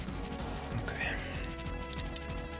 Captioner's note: quietly